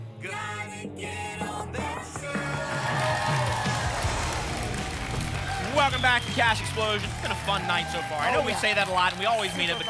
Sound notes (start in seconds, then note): 2.4 applause and cheering